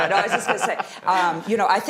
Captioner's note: laughing